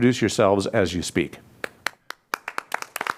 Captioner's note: applause